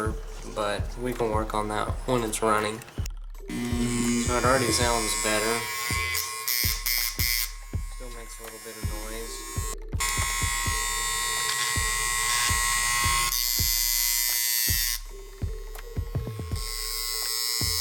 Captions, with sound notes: We're going to plug it in and see if this bad boy runs. It may need adjustments for sure, but we can work on that when it's running. It already sounds better. (motor humming). It still makes a little bit of noise.